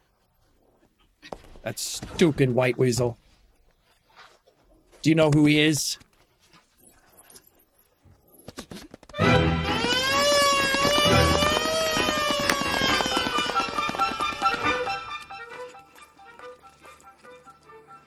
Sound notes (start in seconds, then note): 9.2 sirens ringing; 13.7 intense Music